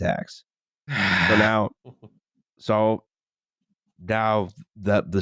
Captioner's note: long-suffering sigh